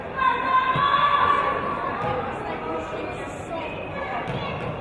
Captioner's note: yelling from audience